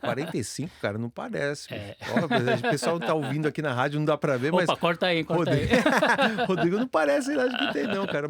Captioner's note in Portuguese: risadas